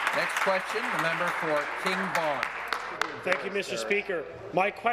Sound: applause

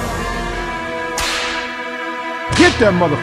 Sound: slap

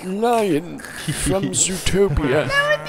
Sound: giggle

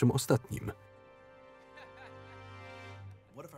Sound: laughing

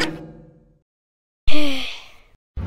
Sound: sigh

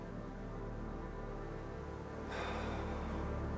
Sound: Alister sighs

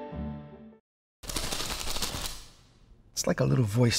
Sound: rapid flapping

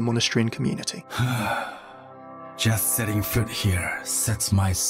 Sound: sighs

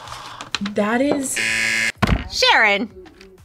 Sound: buzzer rings

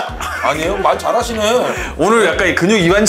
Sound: bwahahaha; hahaha

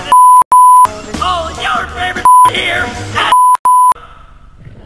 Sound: beep

